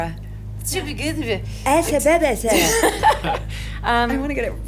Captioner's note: laughs